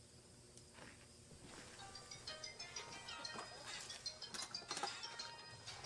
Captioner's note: phone rings